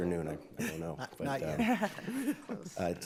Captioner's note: judges laugh